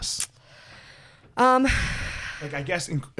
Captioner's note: sighs